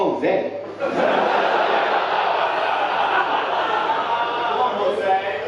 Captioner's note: audience laughing